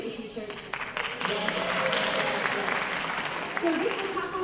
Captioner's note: applause